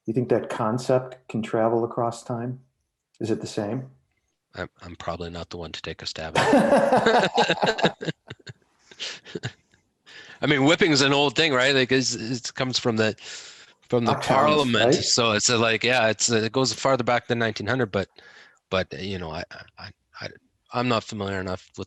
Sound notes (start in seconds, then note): 6.3 laughing